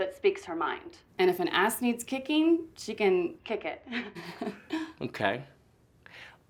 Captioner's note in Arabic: يضحك